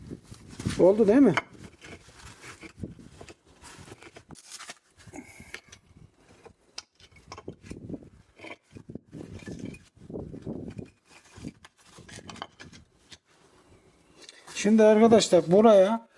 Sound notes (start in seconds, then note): 2.0 rustling, clicking and rattling sounds and wind noise